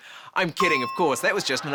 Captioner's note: bell chimes